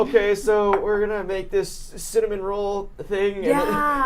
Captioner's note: laughs